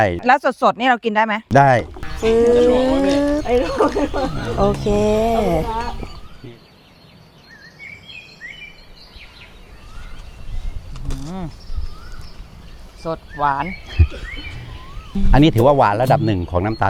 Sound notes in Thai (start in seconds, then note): 1.6 เสียงหัวเราะ